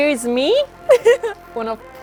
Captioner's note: laughs